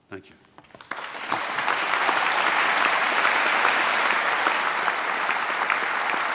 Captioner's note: applause